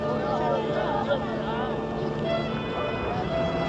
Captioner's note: men praying in Hebrew; car horn